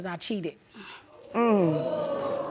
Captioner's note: audience gasps